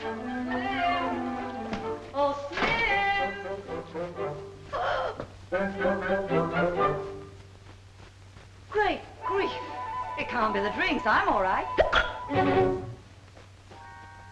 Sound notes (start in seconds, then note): 0.2 upbeat music; 4.7 Patsy gasps; 11.5 dramatic music; 11.7 Patsy hiccups